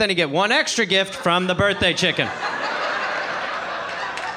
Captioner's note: audience laughing